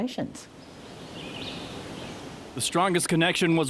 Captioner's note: birds chirping